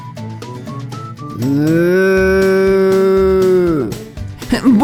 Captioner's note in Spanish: Sonido de vaca